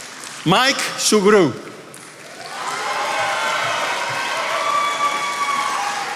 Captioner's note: attendees applauding